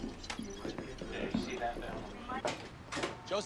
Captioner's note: indistinct chatter